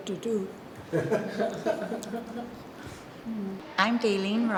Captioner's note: interviewer laughs